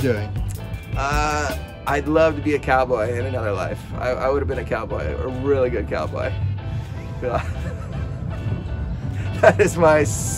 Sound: laughing

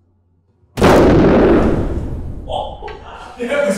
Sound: explosion

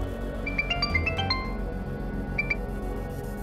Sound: phone ringing

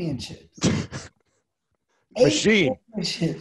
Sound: Lewis chuckles

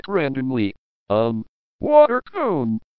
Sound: in a drunk way

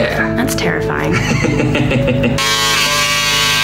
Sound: laughing; hair clippers buzzing

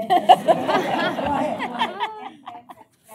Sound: laughter

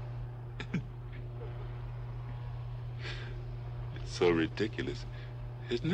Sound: Barney chuckles

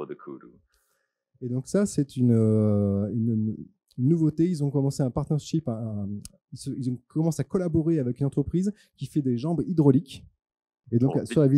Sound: translating into french

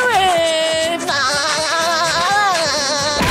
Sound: laughing

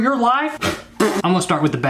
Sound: spits

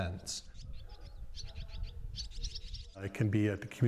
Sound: birds chirping

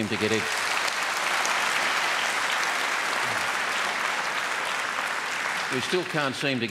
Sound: applause

